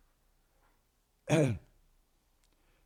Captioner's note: clears throat